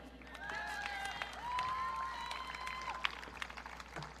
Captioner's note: audience cheering